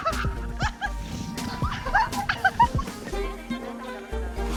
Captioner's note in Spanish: chillando y riendo